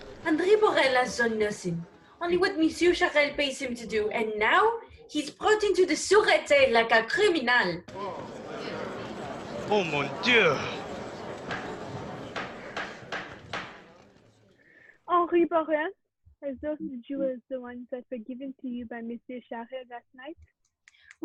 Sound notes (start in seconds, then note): 0.4 French accent; 7.9 commotion; 12.3 gavel